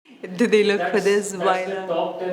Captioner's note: laughs